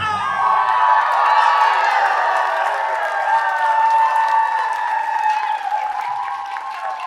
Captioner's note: applause